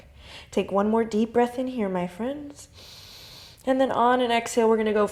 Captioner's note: inhales